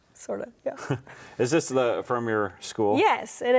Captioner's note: chuckles